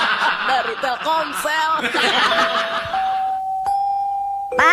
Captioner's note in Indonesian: tertawa